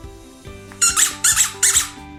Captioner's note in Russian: писк